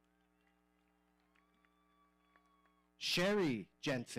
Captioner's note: audience cheering